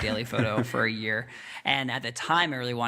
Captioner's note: laughing